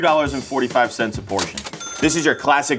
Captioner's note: cash register dings